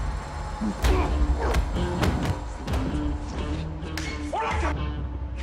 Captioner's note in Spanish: Golpes